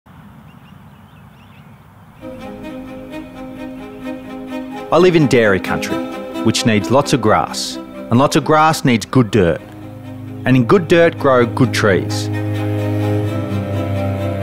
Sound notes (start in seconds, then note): 0.0 birds chirping